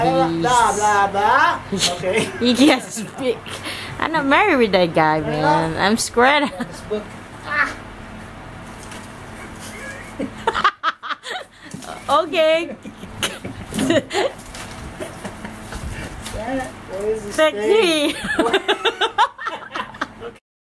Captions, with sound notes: hoBROs! Peace! blah blah blah blah blah blah. What the hell is blah blah blah? I don't think I have a husband. He's... blah blah blah. He can't speak. I'm not married with that guy. man! I'm scared. Agh!! (Laughter) O.k. Damn it what is his thing? Sexy! (More laughter)